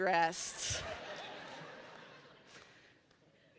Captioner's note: laughter